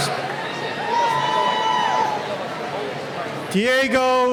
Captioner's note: cheering